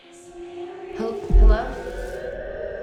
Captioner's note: eerie music; voices whispering